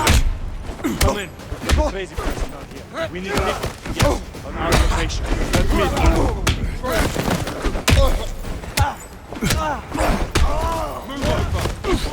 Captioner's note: groaning